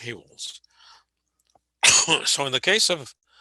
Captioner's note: coughing